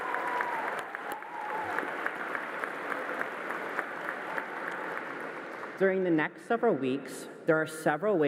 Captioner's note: applause